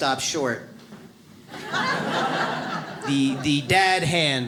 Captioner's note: audience laughs